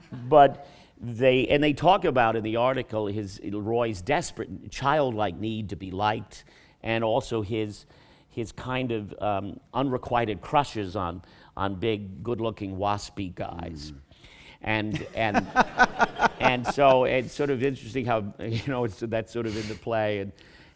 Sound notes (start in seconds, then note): 14.9 laughter